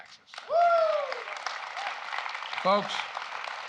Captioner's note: applause